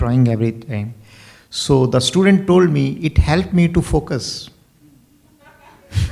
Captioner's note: laughs